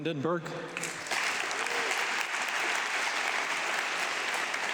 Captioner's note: audience clapping